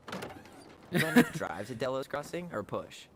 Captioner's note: laughs